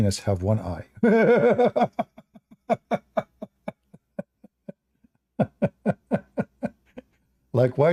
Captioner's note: Ketawa